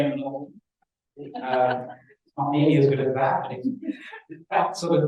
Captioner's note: laugh